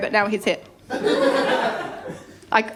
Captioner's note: laughter